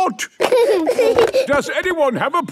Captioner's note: giggling